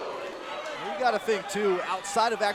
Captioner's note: crowd cheering